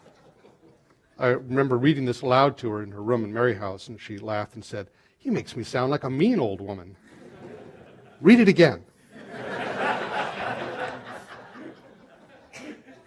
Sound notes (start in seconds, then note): 9.0 laughter